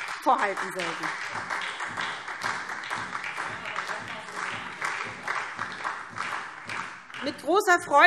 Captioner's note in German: Beifall SPD